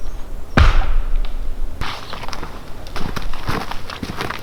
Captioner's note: log thudding